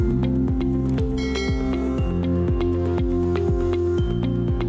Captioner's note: bell ringing